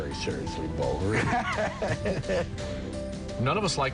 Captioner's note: Schembechler laughs